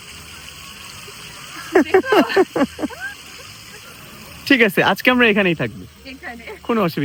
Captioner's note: loud laughter